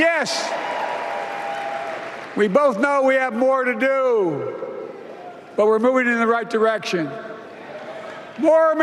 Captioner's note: applause